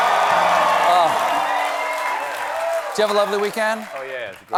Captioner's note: applause